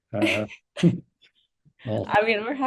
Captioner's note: both laughing